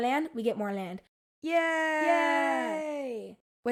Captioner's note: Ottomans cheer!